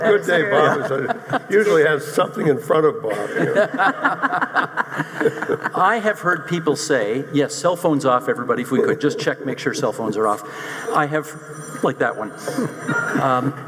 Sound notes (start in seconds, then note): 3.0 audience laughing; 11.2 cell phone ringing